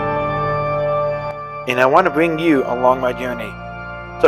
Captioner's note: voiceover